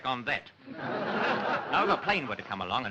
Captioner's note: laughter